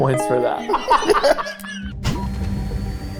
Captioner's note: group laughing; tense suspenseful music